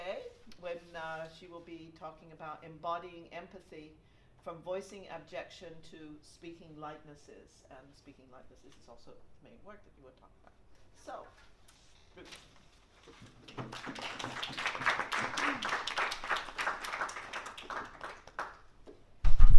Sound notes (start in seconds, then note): 13.4 applause